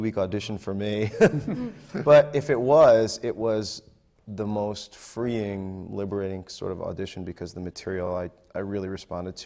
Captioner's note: laughs